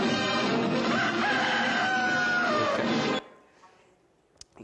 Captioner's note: fanfare; crowing